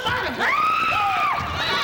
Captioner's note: scream